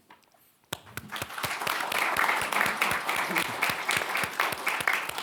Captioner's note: audience applauding